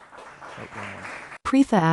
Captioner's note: applause